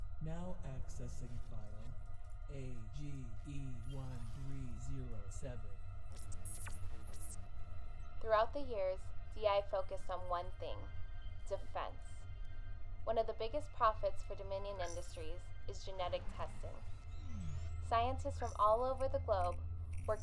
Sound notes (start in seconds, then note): 0.4 digital Male Voice; 6.0 digital beeping and buzzing